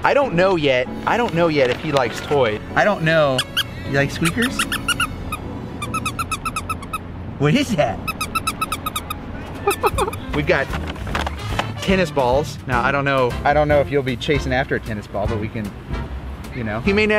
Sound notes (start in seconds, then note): 2.9 toy squeaks; 9.4 laughs